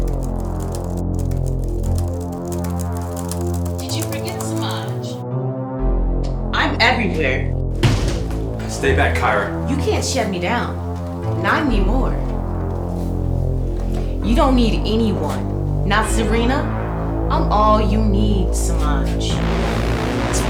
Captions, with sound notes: You don't need anyone, not Serena. I'm all you need, Semaj. [Smack] [Soft music]